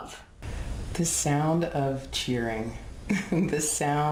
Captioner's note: laughs